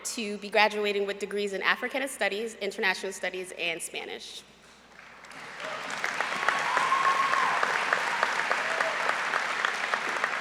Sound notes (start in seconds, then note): 4.9 applause